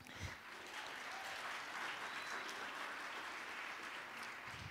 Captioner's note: audience applauds